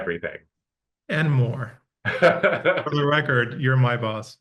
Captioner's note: laughing